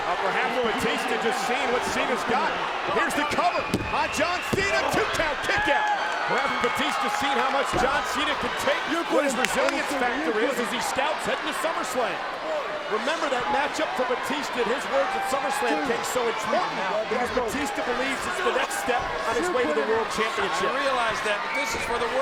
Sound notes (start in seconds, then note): 3.1 hands thudding; 9.2 hands clapping